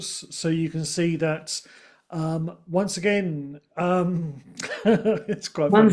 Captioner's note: chuckles